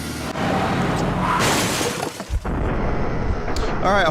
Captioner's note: car crashes